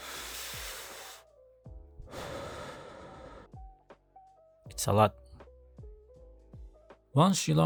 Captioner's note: exhales… it's alot